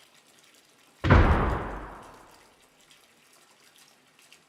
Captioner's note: loud thud coming from staircase